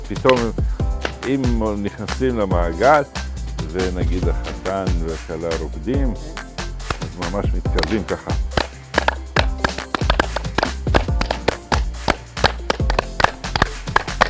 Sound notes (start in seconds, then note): 8.5 claps